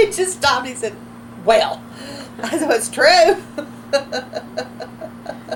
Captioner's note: laughs